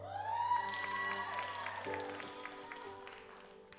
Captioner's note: audience applauds